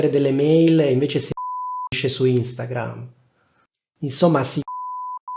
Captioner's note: beep